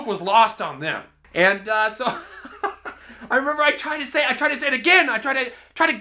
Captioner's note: laughs